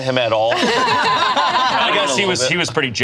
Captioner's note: group laughs